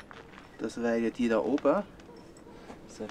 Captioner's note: in Swiss German